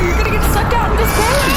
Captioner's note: screaming